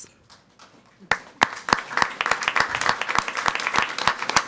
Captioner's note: people clapping